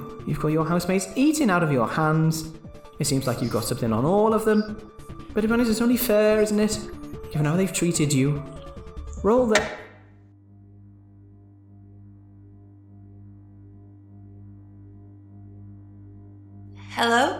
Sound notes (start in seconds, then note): 9.5 abruptly cuts off with a click, leaving silence but for electricity humming; 9.5 door clicks open, sound of feet walking upstairs and out onto the roof